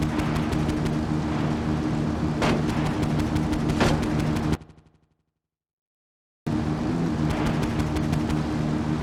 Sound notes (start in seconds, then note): 5.0 gun firing; 6.5 car engine roaring